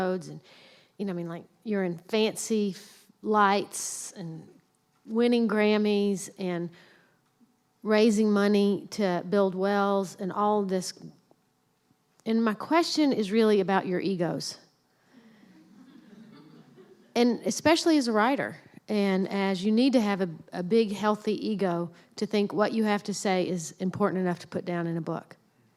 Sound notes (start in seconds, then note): 15.6 laughter